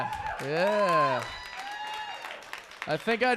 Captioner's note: audience cheering